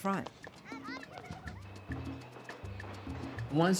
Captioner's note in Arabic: أطفال يتحدثون